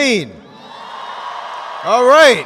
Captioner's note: students excitedly cheering